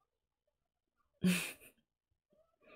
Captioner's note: laughs